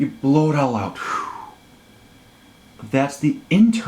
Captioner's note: exhales